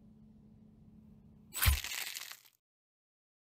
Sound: flesh sliced

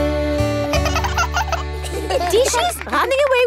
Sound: both laugh

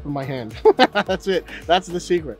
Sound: laughing

